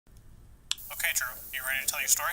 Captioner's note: voiceover